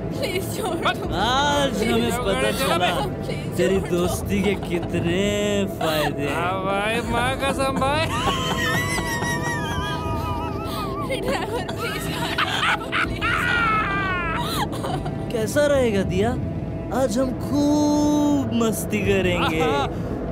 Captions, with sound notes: Today we realize the benefits of having you as a friend. I agree man! (Laughs) Driver, please stop the cab How about having a lot of fun tonight Diya?